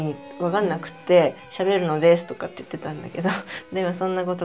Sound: laughs

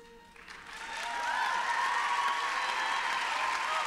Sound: applause

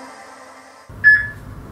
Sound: peep

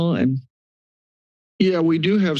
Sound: silence

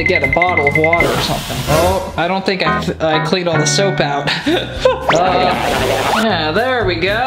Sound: laughs

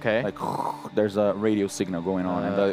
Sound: static noise

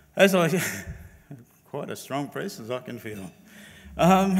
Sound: laughs

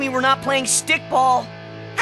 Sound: screeching

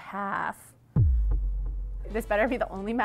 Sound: dramatic booming

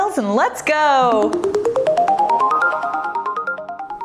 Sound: chimes

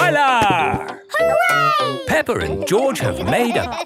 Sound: laughing

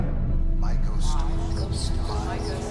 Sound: collective voices

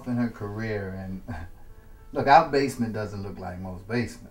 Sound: chuckles

